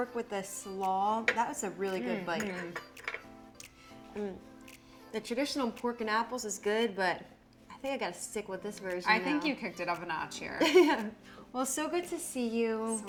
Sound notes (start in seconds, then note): 2.4 fork clattering; 10.6 chuckling